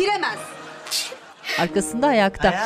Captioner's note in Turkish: Hapşırma sesi